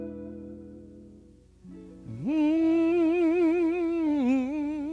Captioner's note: gospel humming